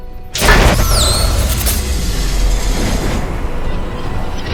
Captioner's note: electricity sparks